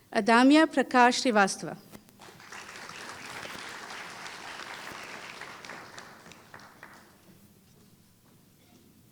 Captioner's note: applause